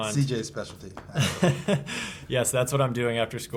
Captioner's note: laughs